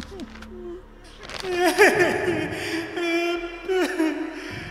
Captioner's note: cries